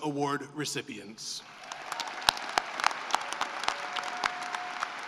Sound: applause

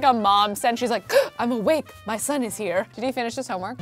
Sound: gasping

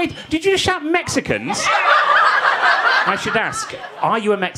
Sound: audience laughing

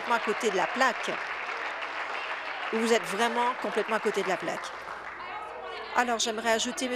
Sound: applause

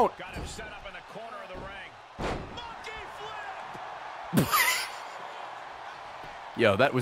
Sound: laughs

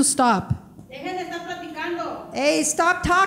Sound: speaking in foreign language

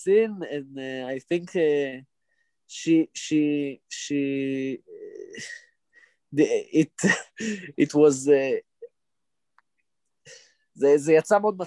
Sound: speaking Hebrew

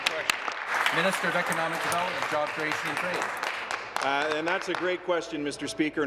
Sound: applause

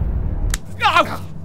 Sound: smack!

